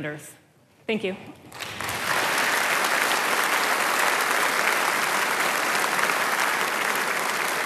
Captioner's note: applause